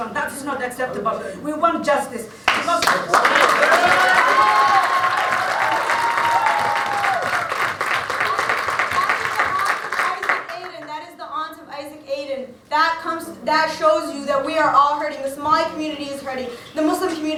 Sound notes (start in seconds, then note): 5.7 clapping